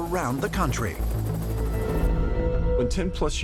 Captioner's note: helicopter whirring